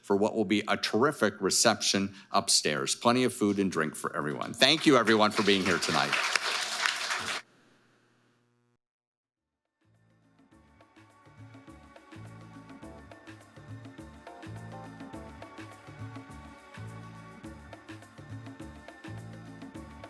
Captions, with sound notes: for what will be a terrific reception upstairs. Plenty of food and drink for everyone. Thank you everyone for being here tonight. (audience applauding) (gentle music)